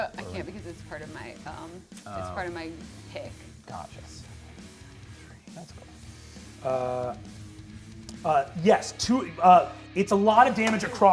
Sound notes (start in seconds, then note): 4.5 mutters